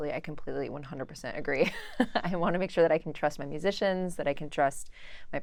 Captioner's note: laugh